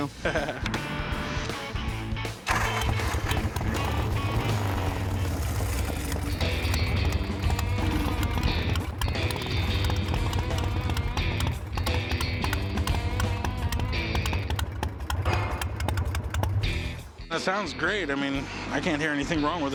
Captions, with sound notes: [laughs] [engine rumbles] That sounds great. I mean, I can't hear anything wrong with it.